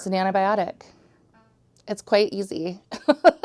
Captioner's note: laughing